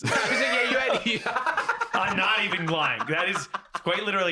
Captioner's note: cackles